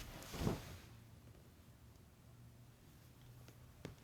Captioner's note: blanket rustles